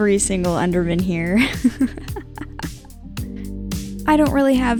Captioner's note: laughing